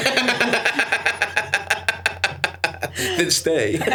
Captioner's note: Stavros laughs